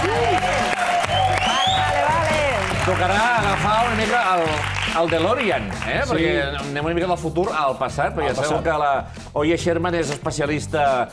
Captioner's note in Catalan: aplaudiments